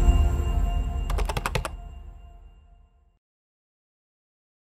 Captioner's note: bell dinging; keyboard typing